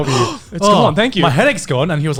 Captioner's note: inhales deeply